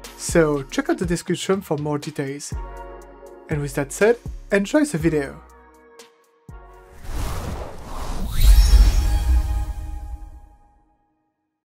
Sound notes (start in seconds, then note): 5.8 pleasant music; 6.9 air swooshing; 8.3 bright music